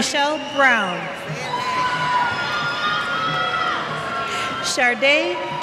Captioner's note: cheers